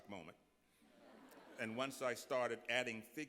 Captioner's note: laughter